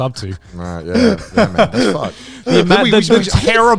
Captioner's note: laughing